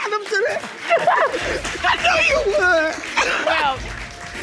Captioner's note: laughs